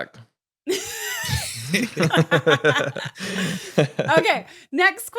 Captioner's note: laughs